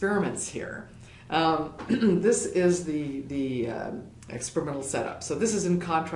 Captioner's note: cough